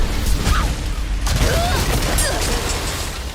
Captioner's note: shrieks in pain